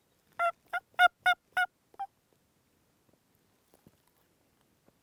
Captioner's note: turkey calling